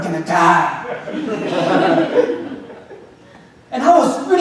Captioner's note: audience laughing